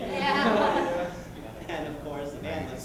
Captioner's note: laughter